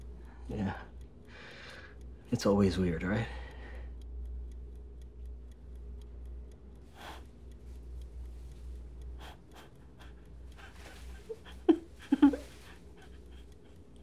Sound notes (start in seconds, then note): 0.0 timer ticking quietly; 4.4 timer ticking quietly; 4.4 woman softly laughing